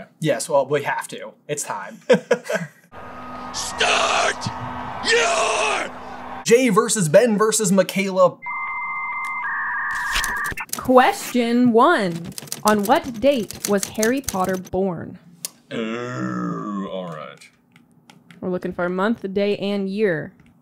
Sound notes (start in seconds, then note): 1.9 laughter; 8.5 AOL dial up sound